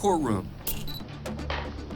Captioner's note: camera clicks, beeps